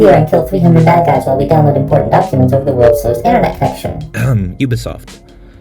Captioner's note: ahem